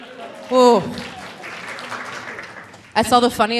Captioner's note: audience applauding